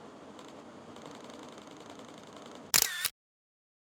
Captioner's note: camera shutter clicks